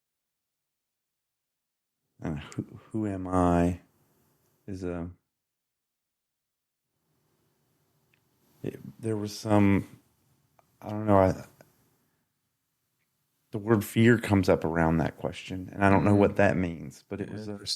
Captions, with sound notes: And who am I? Is a... (silence) There was some, I don't know, the word fear comes up around that question and I don't know what that means, but it was--